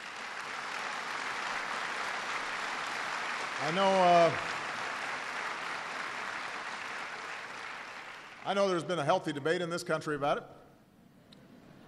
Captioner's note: applause